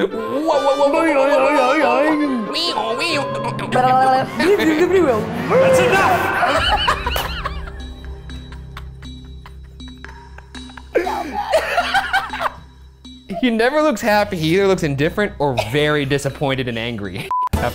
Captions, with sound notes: - Wowowowowowow! - Boi-oi-oi-oing! - Wee ooh wee ooh - Onk yonk onk yonk - Bleebloobleebloo-- - That's enough! (both laughing) (tense music) (laughs) - Look how mad! - He never looks happy, he either looks indifferent, or very disappointed and angry.